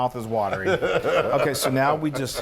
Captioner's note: laugh